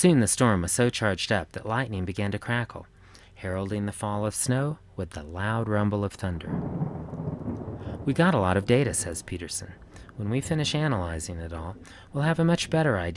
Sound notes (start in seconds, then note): 6.4 thunder rumbles